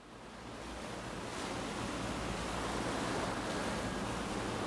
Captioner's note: waves crashing